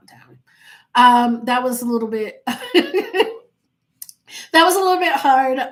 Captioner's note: laughing